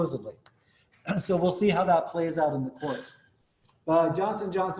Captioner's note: cough